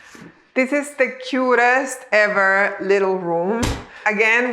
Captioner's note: door closing